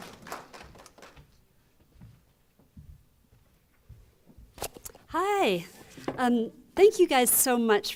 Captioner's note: applause